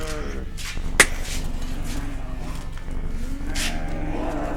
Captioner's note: slap thwacks